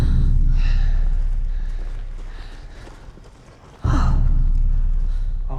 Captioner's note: Martha gasps